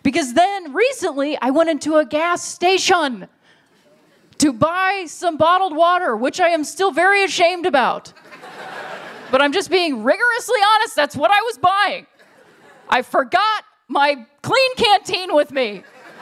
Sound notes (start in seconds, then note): 8.1 laughter